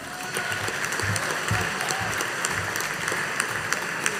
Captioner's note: audience applauding